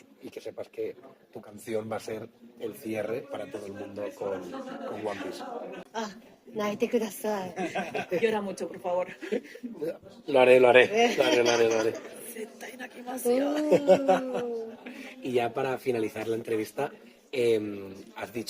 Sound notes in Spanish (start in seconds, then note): 13.4 risas